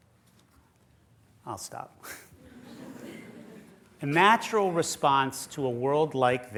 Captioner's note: laughter